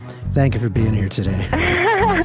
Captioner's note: theme music plays; laughs